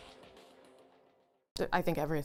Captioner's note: fades out